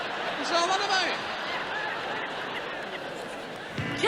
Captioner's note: audience laughs